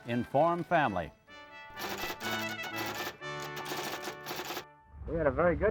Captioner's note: typewriter keys clacking